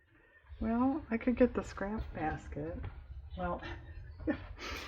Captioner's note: laughs